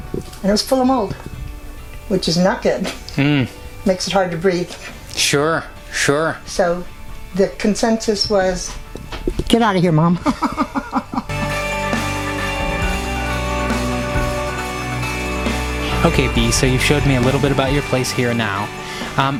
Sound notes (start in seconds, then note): 10.2 laughing; 11.2 upbeat music